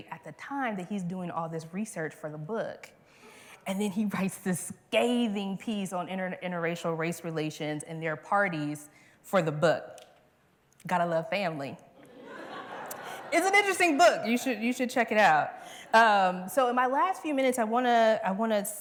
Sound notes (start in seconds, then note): 12.0 laughter